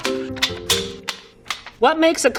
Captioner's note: papers ripping